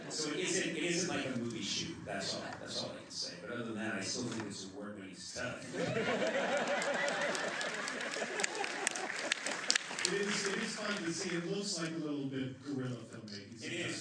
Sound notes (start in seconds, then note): 0.0 laughter; 5.6 laughter; 6.3 applause